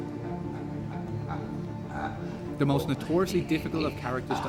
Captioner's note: none